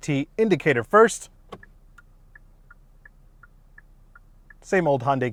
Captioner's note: turn signal clicking